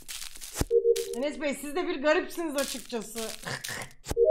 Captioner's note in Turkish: gülme